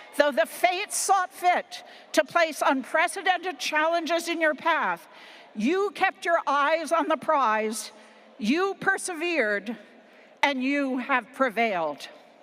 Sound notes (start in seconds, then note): none